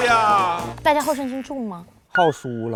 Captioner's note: laughs